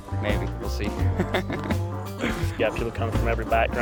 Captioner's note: laughing